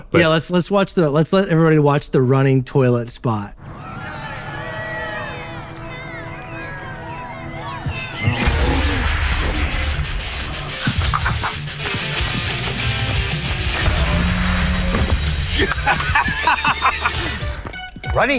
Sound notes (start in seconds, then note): 3.6 people cheering; 8.0 energetic music; 15.4 toilet laughing